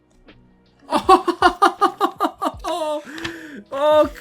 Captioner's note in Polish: śmiech